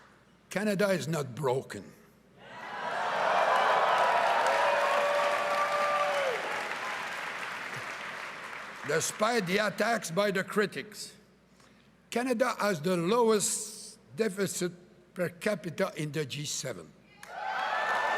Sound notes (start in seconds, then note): 0.0 applause; 9.4 cheering and applause